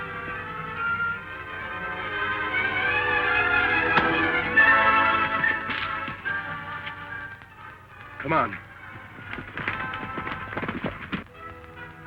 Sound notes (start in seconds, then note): 3.9 whack!